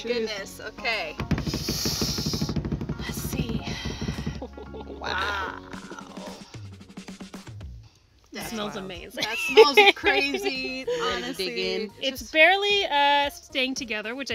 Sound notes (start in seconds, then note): 1.2 drumroll; 10.7 laughing